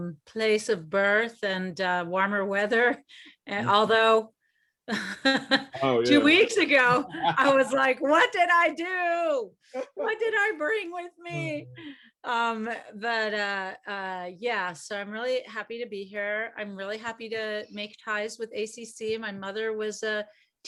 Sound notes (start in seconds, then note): 6.8 chuckles; 11.3 laughs